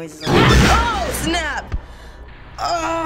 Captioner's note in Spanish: Rugido de forma brusca